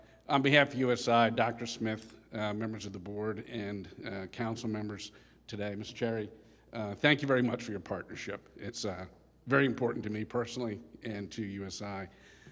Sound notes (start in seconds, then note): none